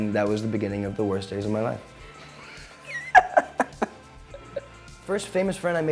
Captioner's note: laughs